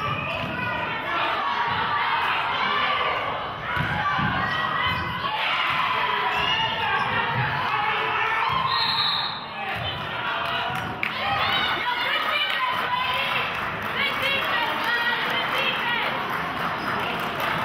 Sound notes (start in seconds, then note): 5.9 cheering; 8.6 whistle blows; 10.4 clapping